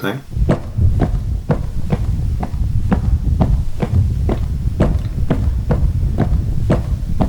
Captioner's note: footsteps